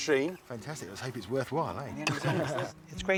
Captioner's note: laughs